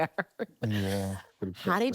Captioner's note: laughing